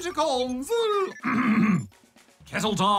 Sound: clears throat

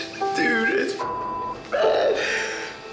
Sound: beep

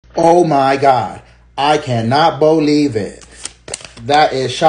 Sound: paper noise

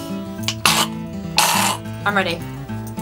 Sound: coughs

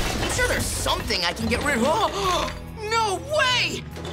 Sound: gasping

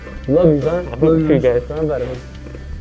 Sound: laughing

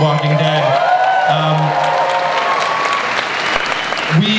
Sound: audience applauds and cheers

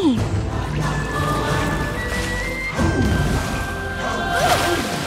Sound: water splashing

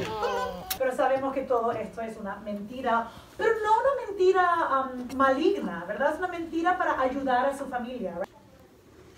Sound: teacher speaking Spanish again

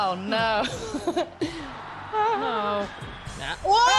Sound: laugh

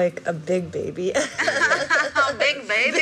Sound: laughter

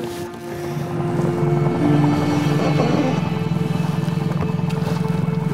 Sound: somber music; boat motor hums

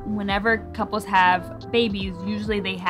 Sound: none

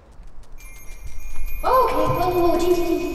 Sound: tink bells

